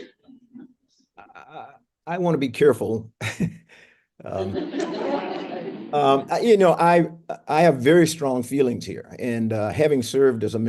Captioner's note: laughter